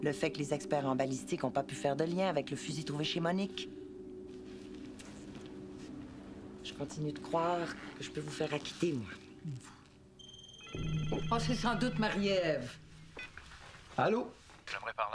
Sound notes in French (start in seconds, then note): 10.1 Le téléphone sonne